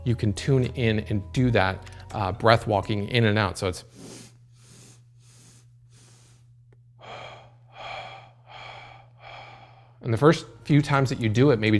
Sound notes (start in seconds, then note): 6.6 exhaling; 6.9 inhaling